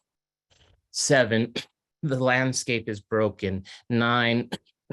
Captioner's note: cough; cough